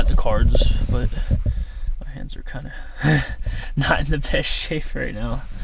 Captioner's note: laughs